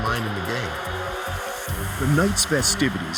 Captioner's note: crowd cheering